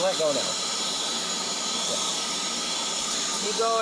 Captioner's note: air duster whirring